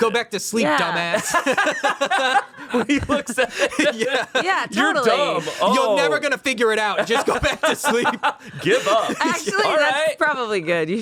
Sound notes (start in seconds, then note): 1.0 everyone laughs